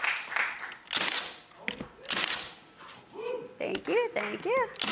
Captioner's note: nail gun banging